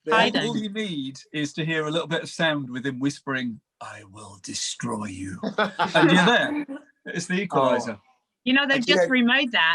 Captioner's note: laughs